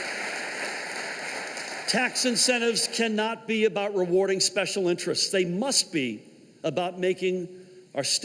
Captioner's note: applause